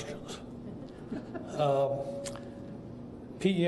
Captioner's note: laughter